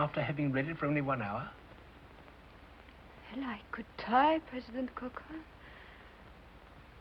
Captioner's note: foreign accent